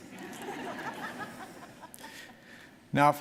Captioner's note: audience laughing